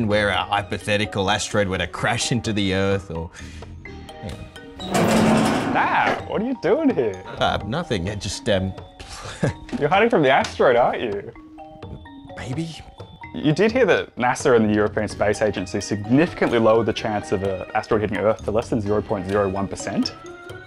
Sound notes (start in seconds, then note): 4.8 clattering; 9.1 chuckles